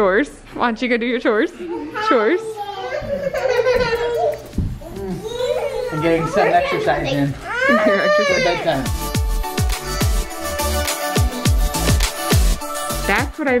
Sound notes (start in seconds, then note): 1.6 children laughing; 2.8 giggling; 7.6 children whining; 11.6 upbeat music